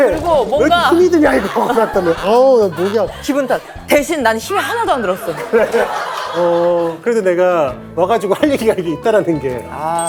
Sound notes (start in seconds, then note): 0.0 crack crack